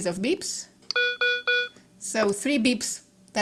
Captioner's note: device beeps three times